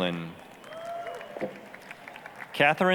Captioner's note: applause, cheering